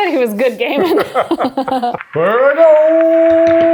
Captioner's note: both laughing